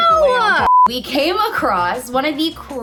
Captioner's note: beeping